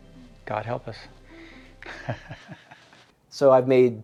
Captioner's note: giggles softly